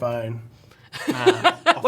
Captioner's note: laughs